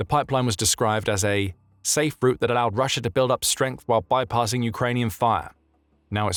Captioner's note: Ukrainian